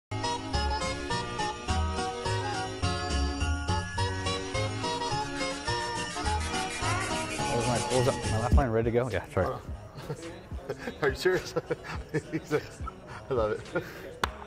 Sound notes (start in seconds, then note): 0.0 bright festive music; 9.9 laughing